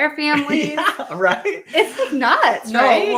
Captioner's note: laughing